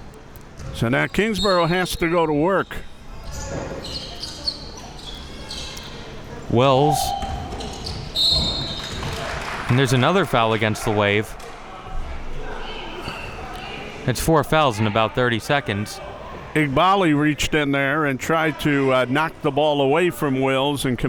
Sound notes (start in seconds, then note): 8.1 whistle blowing